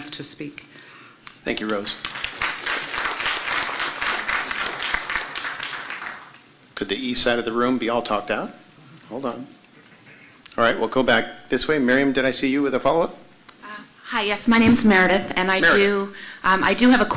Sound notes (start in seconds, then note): 1.6 applause